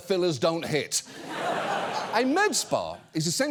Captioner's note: audience laughs